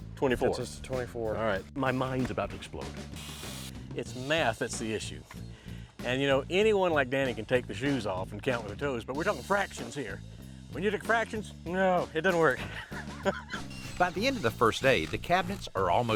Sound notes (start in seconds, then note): 12.6 laughs